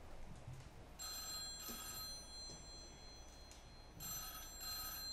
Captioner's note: phone rings